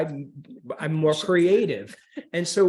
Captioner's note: laughter